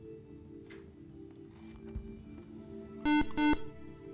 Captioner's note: buzzer